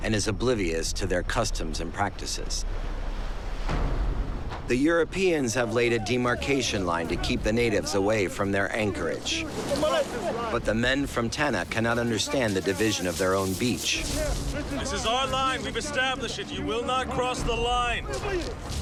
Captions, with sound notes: and is oblivious to their customs and practices. [menacing music] The Europeans have laid a demarcation line to keep the natives away from their anchorage. [speaking Tahitian] But the men from Tanna cannot understand the division of their own beach. This is our line. We have established it. You will not cross the line.